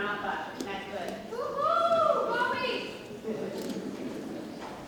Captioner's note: lady shouts